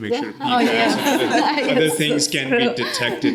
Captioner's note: all laughing